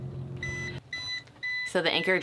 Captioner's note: alarm beeping